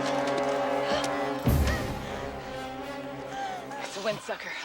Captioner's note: panting